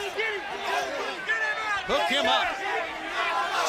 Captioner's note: crowd chatter